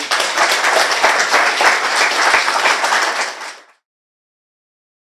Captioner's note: applause